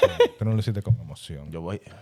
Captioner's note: speaking In Foreign Language; laughing; speaking In Foreign Language